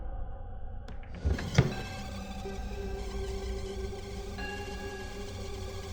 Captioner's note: high-pitched buzzing